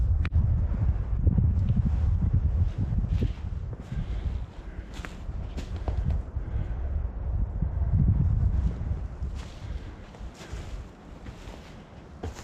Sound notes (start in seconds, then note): 1.3 wind